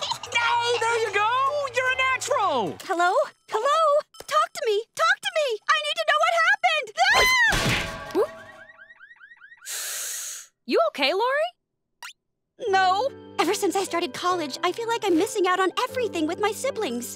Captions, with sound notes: There you go. You're a natural. Hello? Hello? Talk to me. Talk to me. I need to know what happened. [shrieking] [car alarm blaring] You okay, Lori? No. Ever since I started college, I feel like I'm missing out on everything with my siblings.